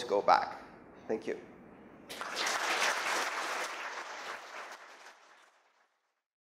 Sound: applause

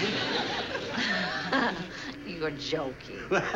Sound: laughs

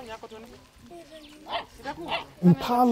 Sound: barking

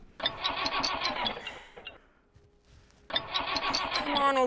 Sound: engine sputtering

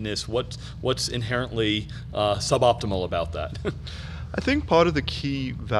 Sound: laughing

